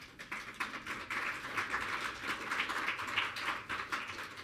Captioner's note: audience clapping